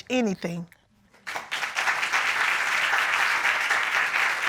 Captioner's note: applause